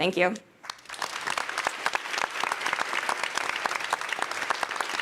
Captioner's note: audience applauding